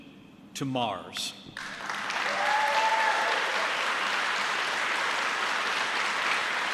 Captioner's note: applause